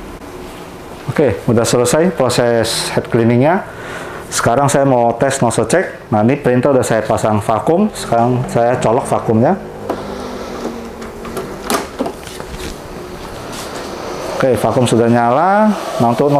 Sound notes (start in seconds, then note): 3.6 inhale; 9.6 switching vacuum on